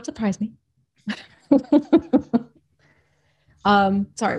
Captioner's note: laughs